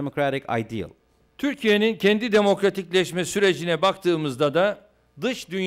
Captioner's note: non-english speech